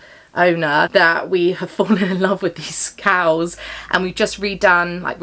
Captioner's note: laughs